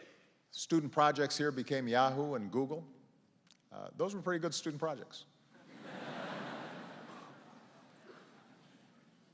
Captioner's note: laughter